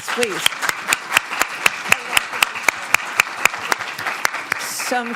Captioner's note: applause